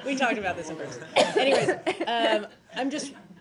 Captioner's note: laughter